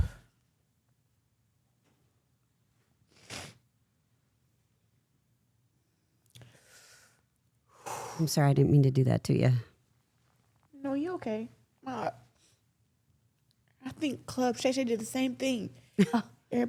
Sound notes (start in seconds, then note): 7.7 Claressa exhales deeply